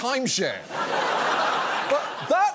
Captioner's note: audience laughs